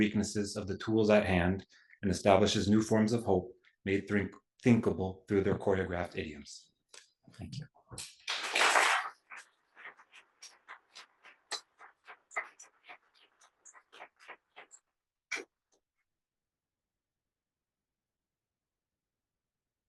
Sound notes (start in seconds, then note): 8.0 applause